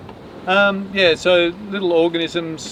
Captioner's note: laughs